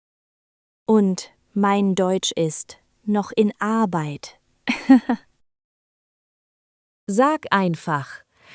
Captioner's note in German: lacht